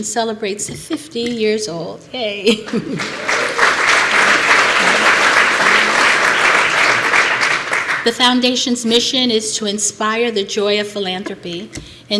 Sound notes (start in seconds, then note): 2.6 applause